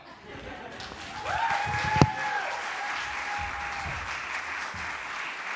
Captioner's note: applause